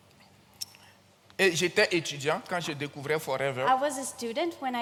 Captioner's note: continues in French